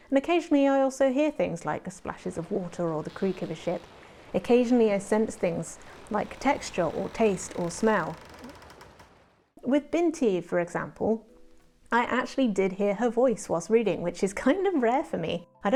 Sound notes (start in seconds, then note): 6.9 burbling water and creaking ship noises underlay my voice